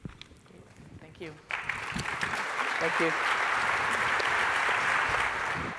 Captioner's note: applause